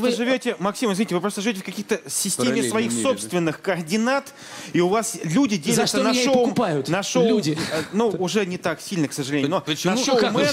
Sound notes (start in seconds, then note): none